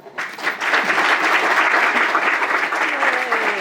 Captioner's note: applause